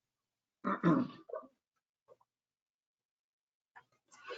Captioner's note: male clears throat